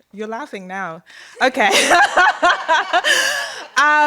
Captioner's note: laughter